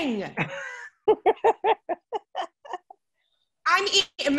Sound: laughs

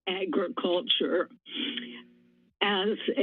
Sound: pause

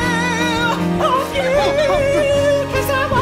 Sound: speaking; singing

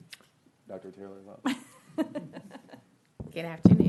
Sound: laughing

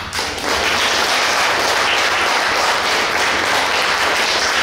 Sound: clapping

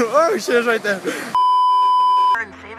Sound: beeeeeep

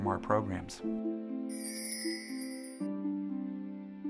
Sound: chimes ring; gentle music

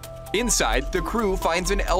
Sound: closes door

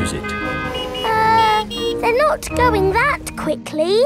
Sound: horns honking

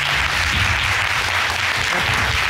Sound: audience applauding

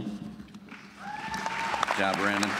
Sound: applause

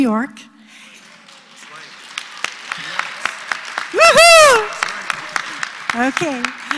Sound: applause

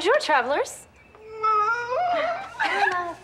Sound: sobbing

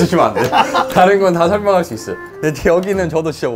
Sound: laughing

